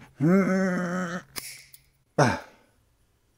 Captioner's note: snapping sound